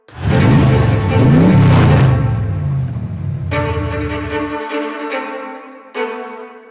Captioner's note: engine revving; intense orchestral music